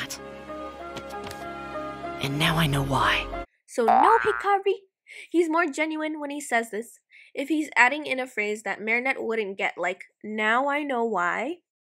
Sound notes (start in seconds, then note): 0.0 gentle music; 3.8 boing!